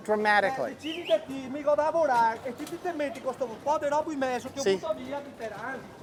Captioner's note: man speaks in a foreign language